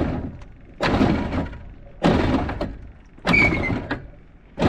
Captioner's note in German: Kette quietscht